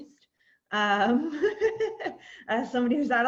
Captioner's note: laughing